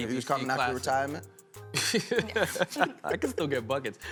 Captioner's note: laughter